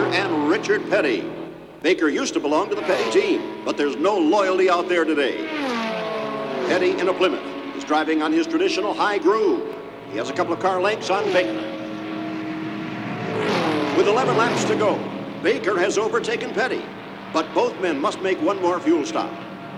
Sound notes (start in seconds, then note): 5.3 car engine roars